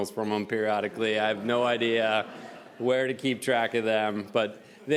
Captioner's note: audience laughs